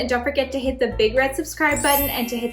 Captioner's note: bells chiming